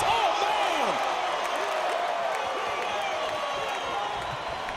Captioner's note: crowd cheers